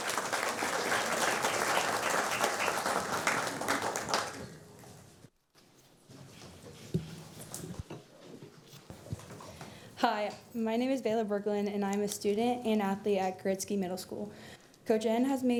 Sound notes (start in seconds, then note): 4.6 applause